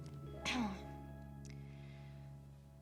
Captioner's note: clears throat